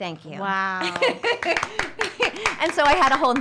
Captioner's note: claps